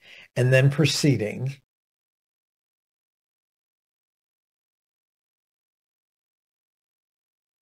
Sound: A pause

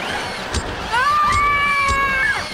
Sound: screaming

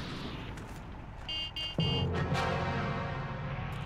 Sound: Kubelwagon honking

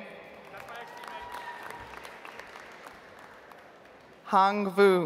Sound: audience applauds

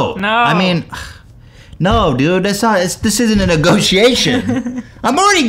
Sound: giggles

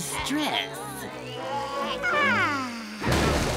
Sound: relieved sigh

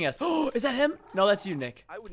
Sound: gasps

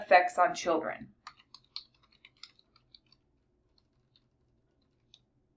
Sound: keyboard clattering

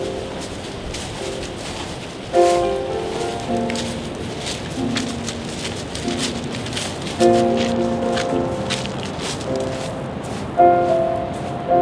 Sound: rocky footsteps

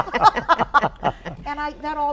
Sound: group laughs

